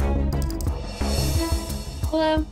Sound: dramatic music; clicking

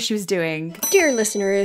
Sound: bell dings

